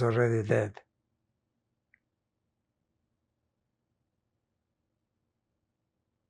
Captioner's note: pauses 11 seconds